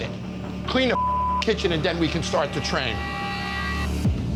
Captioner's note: beep